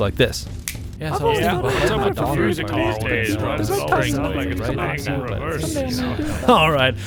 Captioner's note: chatter